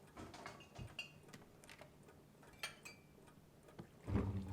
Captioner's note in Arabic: رنين الزجاجات